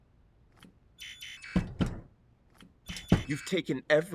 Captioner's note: error buzz